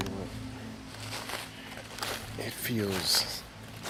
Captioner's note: leaves crunching